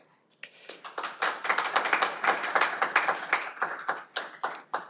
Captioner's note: audience applauding